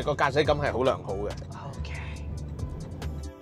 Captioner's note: air sound